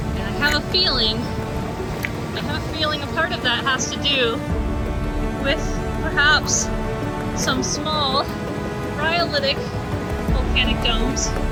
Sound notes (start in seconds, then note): none